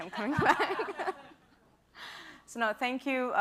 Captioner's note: laughter